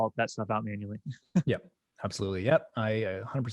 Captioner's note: chuckling